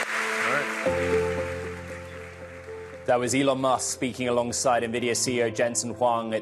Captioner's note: applause